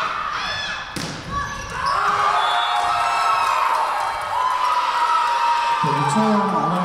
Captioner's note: Tigers cheering; whistle blowing